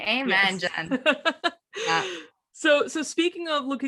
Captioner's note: laughs